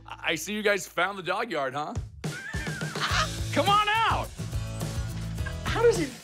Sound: laughter

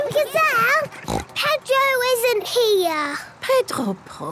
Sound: snort

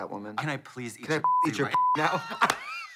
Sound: beep; blonde women hee-haw

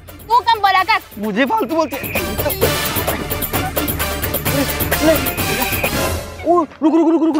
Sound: quarreling

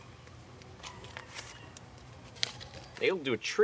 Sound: paper rustles

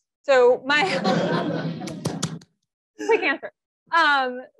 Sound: audience laughs

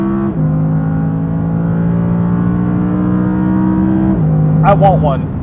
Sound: engine revving

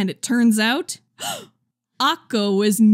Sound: gasp!

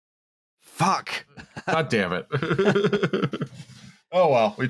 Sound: laughs

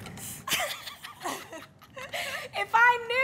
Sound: both laugh

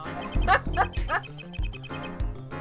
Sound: laughs

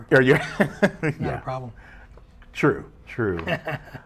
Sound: laughs

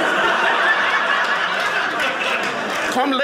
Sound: audience laughing

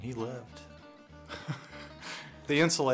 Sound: laughter

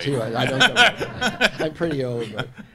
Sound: all laughing

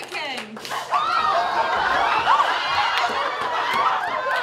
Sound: screams and Laughter

